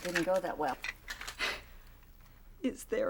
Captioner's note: scoffs